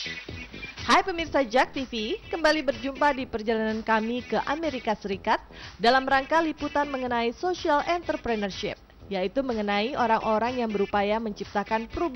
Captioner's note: non-english speech